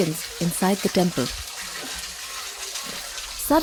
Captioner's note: water burbles